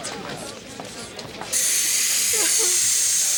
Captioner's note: mechanical noises